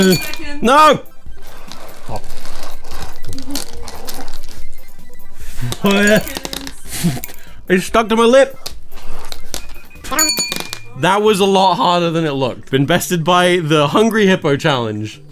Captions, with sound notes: - 10 seconds. - No! (skittles clattering) - Five seconds. (spitting skittles in glass) - They just stuck to my lip. That was a lot harder than it looked. Invested by the Hungry Hippo challenge.